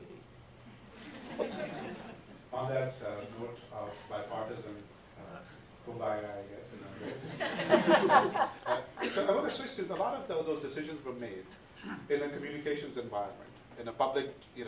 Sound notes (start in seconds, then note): 6.9 audience laughs